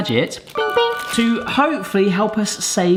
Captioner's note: electronic ping